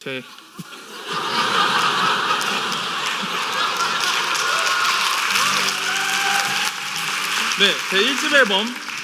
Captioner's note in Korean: 웃음 및 박수